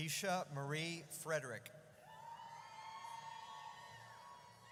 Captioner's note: audience cheers